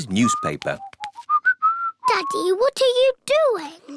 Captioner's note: whistling